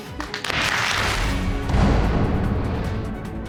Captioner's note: audience clapping